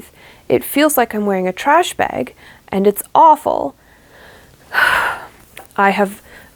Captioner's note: pained sigh